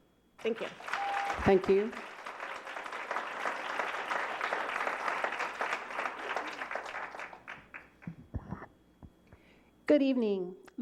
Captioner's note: applause